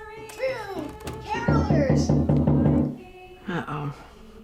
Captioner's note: knocking on door